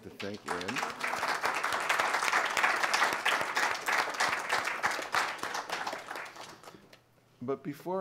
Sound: applause

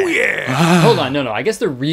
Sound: panting

